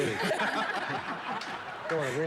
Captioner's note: all laughing